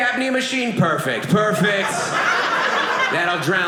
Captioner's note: audience laughing